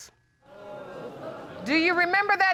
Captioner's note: audience exclaiming